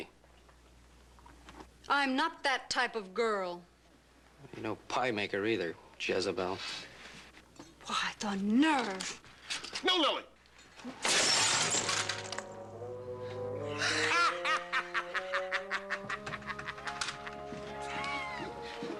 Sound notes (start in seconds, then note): 10.8 glass shattering; 13.7 laughing